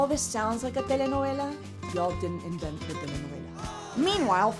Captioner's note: speaks in foreign language